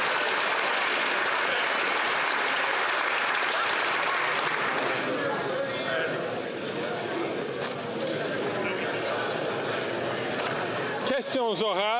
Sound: applause

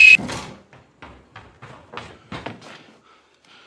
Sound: running steps approaching

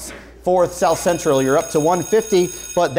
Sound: bell rings

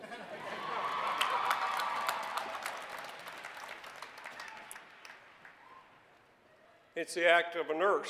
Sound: cheering

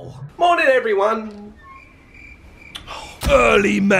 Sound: crickets chirping

